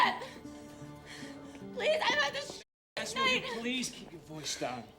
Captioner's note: breathing heavily